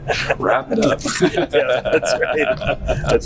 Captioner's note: laughter